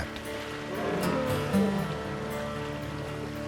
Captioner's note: elephant roars